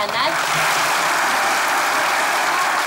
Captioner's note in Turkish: Alkış sesleri